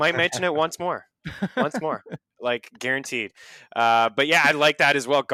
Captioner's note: laughs